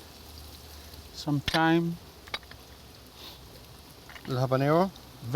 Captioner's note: sizzling